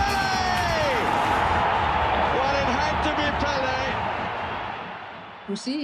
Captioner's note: crowd cheers